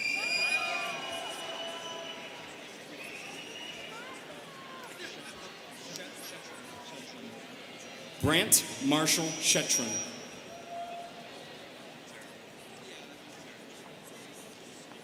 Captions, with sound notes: (students cheering) (students chattering) Brant Marshall Shettron.